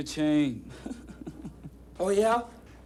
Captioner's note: all laughing